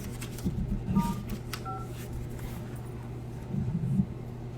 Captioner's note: phone beeps